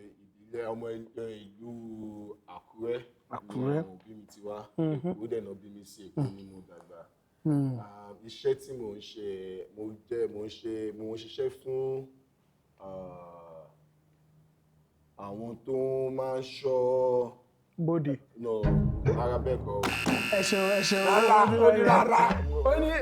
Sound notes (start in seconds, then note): 19.8 buzzer pressed